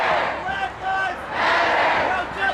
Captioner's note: crowd